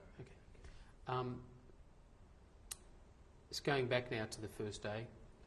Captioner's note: pauses for 3 seconds